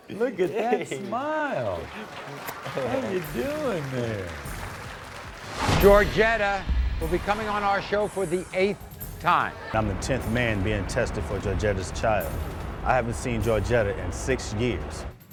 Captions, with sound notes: Look at that smile. How are you doing there? - Yeah (laughs). - Georgetta will be coming on our show for the eight time. - I'm the tenth man being tested for Georgetta's child. I haven't seen Georgetta in six years.